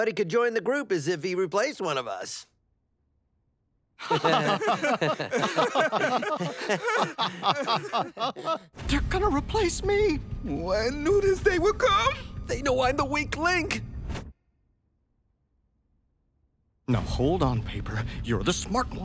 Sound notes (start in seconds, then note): 4.0 laughing